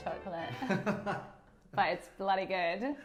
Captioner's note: laughing